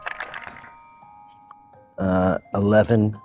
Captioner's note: dice rolling